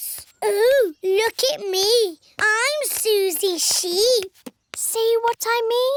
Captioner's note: mockingly